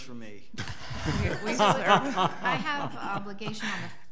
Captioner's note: Board members laugh